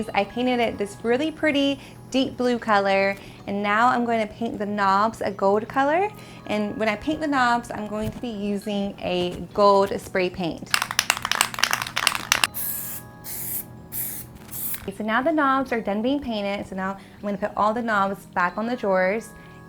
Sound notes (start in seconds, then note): 10.7 rattling; 12.4 spraying